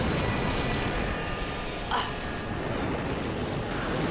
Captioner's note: grunts